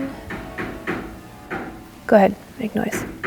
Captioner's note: singsong; loud hammering resumes